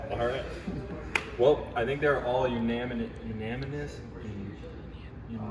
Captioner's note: laughs; claps